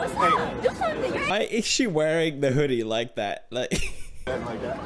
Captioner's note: laughs